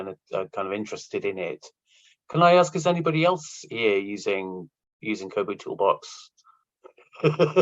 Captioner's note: laughs